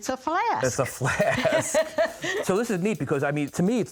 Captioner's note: laughing